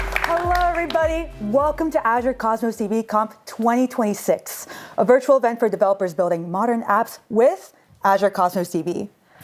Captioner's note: applause